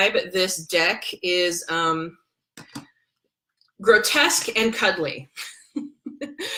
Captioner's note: laughs